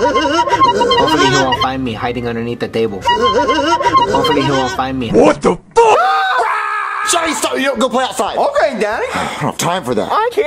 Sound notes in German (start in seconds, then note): 0.0 Gelächter und Quietschen; 3.0 Gelächter und Quietschen; 5.8 schreit